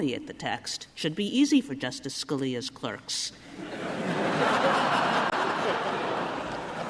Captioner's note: laughter